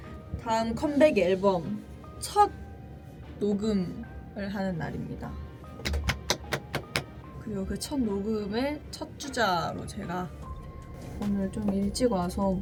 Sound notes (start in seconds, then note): 5.8 applause